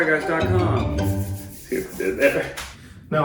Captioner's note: rubbing hands together